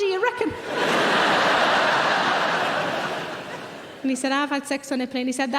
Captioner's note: audience laughing